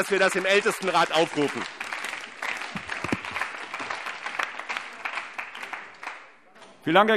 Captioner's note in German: Beifall BÜNDNIS 90/DIE GRÜNEN, CDU, SPD, DIE LINKE und auf der Regierungsbank